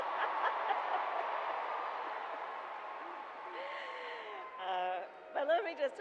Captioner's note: applause